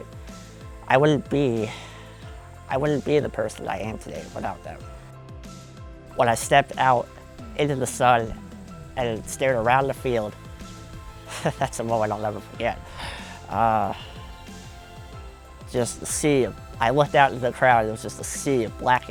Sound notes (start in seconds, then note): 11.2 laughs